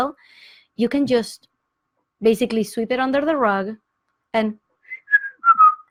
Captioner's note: whistles